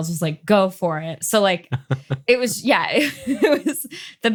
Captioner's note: laughs